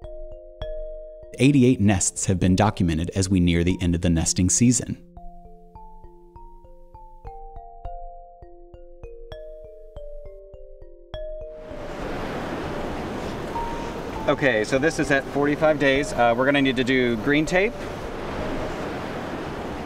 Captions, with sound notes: 88 nests have been documented as we near the end of the nesting season. (soft marimba music) (ocean waves crash) Okay, so this is at 45 days. We're gonna need to do green tape.